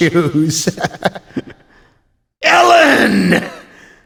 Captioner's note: laughs